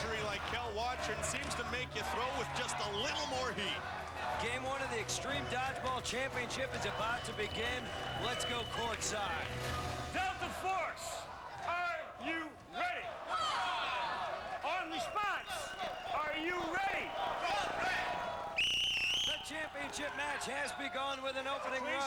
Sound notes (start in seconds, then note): 13.1 cheers; 16.3 cheers; 18.3 whistle blows